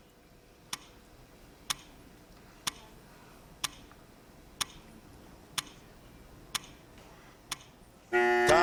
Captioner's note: clock ticking